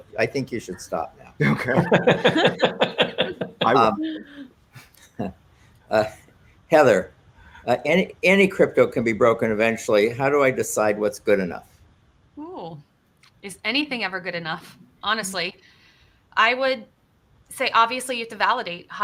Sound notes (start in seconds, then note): 1.4 all laughing